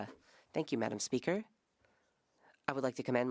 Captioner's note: speaking French